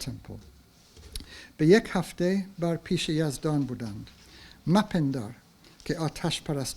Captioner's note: speaks in foreign language